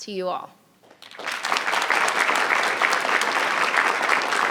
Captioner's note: audience clapping